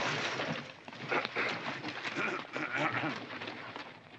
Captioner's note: Mr. Douglas clears his throat